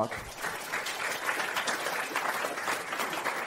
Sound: audience claps

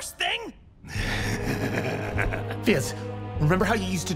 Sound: Striker Laughs

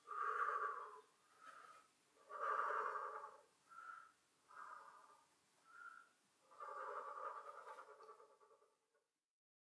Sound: breathing continues and stops

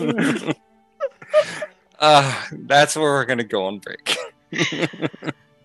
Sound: cast laughing

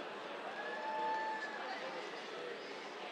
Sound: cheers

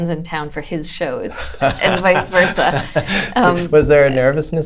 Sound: laughter

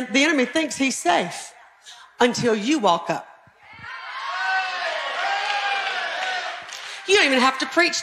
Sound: audience cheering

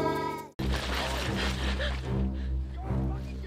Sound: breathing heavily

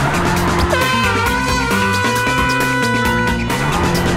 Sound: horn

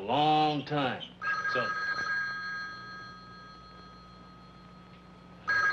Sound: telephone ringing

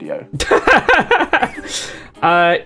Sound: laughter

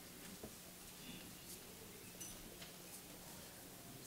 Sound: none

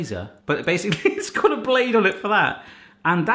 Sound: laughs

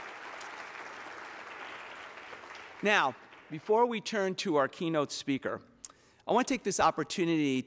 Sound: applause

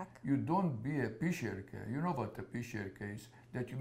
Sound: yiddish

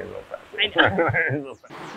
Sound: laughs

